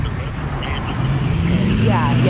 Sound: truck engine revving

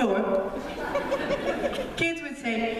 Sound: laughter

